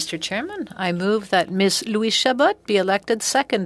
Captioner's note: speaking French